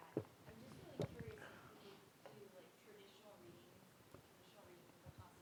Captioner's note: student speaking faintly